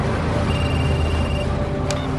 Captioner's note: Звънене на мобилен телефон